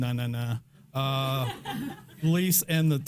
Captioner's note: audience laughing